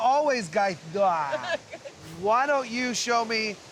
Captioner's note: laughing